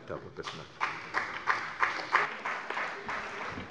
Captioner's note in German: Beifall bei der CDU